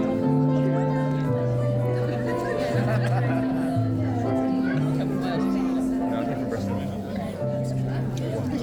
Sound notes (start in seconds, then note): 0.0 piano music; 0.5 laughing; 4.1 crowd chattering